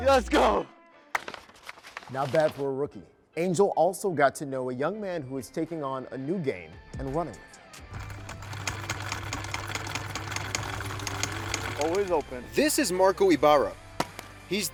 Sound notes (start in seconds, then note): 1.1 paper rustles; 7.8 sewing machine hums